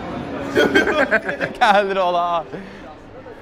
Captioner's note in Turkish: gülüşme